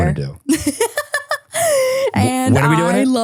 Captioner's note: person laughing